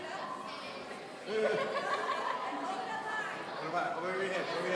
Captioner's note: laughing